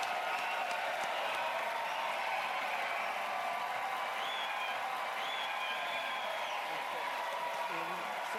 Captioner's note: cheers and applause